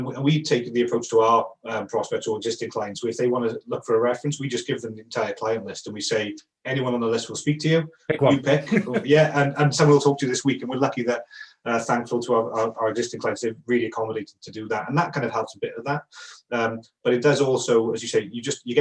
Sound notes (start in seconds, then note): 8.2 chuckling